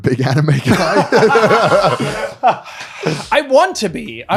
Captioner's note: laughing